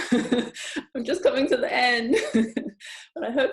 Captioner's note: laughing; laughing